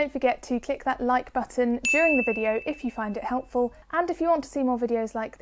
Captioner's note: ding sound effect